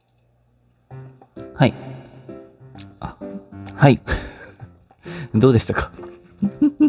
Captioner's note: laughs